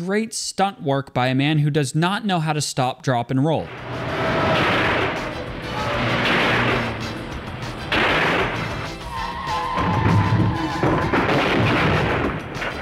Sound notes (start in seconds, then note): 4.2 gunshots